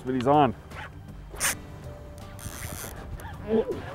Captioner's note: reeling line